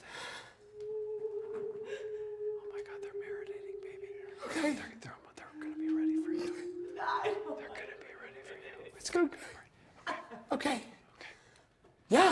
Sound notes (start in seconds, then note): 10.1 Isabel crying